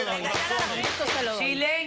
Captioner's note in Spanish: Comentarios al unísono